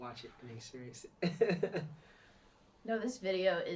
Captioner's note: chuckles